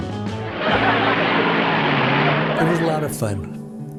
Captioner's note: car engine revs